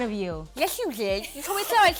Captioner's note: speaking with lisp